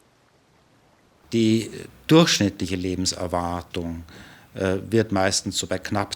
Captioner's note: speaking German